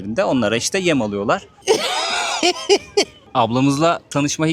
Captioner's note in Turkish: kahkaha